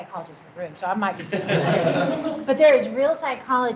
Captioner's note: laughing